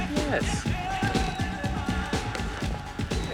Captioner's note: mutters